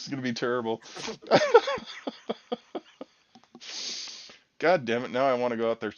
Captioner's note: laughing